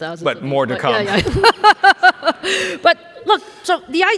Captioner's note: laughs